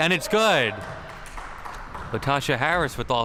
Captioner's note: crowd cheering